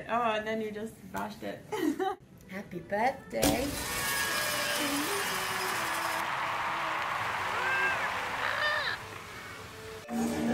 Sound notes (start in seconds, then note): 2.1 laughs; 3.9 crowd cheers